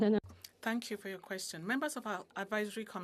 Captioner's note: speaking French